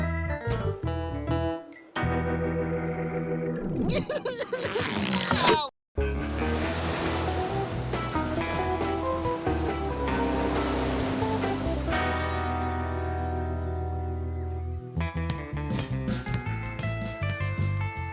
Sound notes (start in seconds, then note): 4.0 sobbing